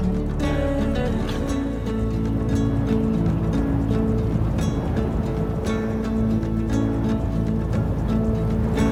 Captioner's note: wind whistling